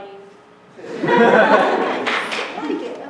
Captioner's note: laughter